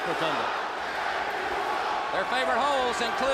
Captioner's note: crowd chatter